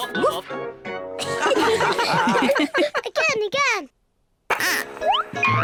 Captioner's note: all giggle